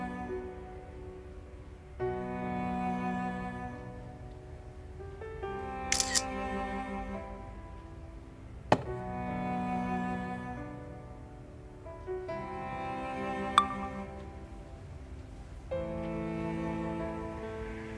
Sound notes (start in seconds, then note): 5.9 phone camera shutter